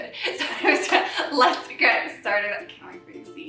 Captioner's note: laughs